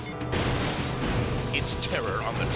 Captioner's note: vehicles crashing; train horn blaring